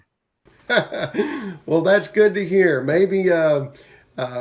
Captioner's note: chuckles